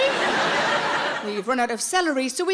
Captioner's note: audience laughs